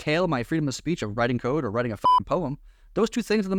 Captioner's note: beep